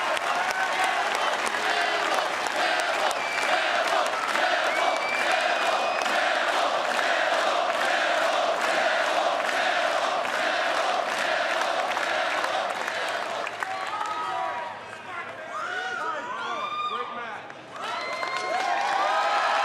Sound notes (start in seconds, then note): 3.8 fans chanting